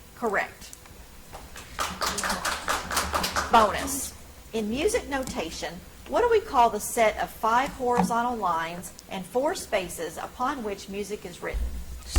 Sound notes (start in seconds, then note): 1.3 audience applauds